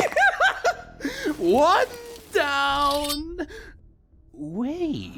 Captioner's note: Laughing Coffin Member laughs; deranged voice